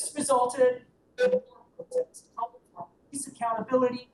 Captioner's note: audio cuts out